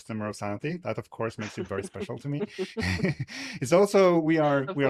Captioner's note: laughs